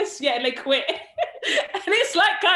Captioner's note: laughs